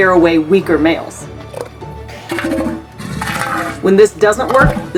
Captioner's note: background music; southern elephant seals vocalizing